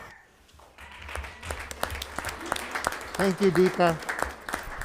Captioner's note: applauding